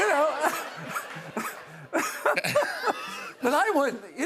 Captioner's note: laughter